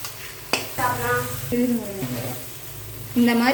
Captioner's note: talking in tamil